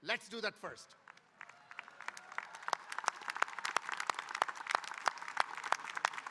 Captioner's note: audience applauding and cheering